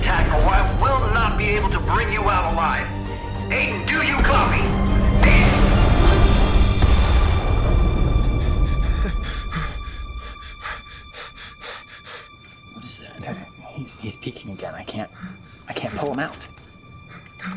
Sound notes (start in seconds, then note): 6.6 explosion booms; 8.4 Aiden panting; 17.0 Aiden panting